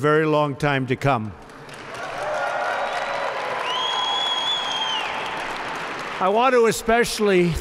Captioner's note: applause